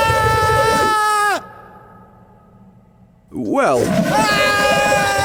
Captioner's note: monster screams